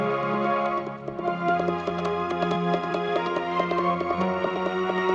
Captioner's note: hooves clopping